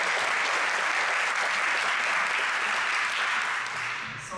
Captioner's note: audience applauds